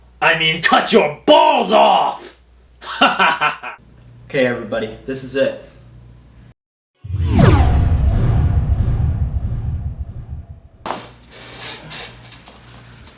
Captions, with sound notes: I mean cut your balls off! (laughs) Okay everybody. This is it. (space ship sound)